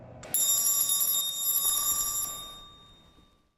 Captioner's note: bell rings